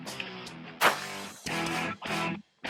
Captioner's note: arrow shot; gunshot